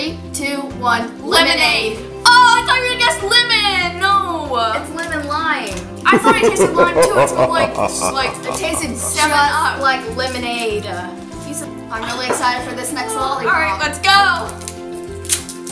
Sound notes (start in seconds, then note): 6.1 man laughing